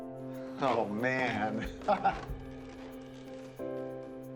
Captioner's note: laughs